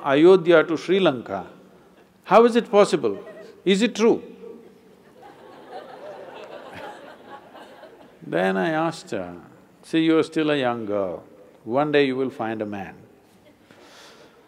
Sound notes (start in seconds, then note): 4.8 laughter